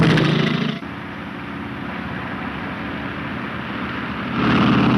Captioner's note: engine puttering